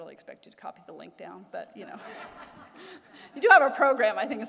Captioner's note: laughter